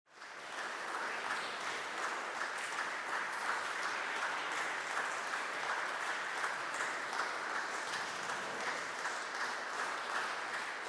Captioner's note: applause